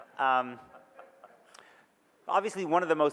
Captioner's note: audience laughs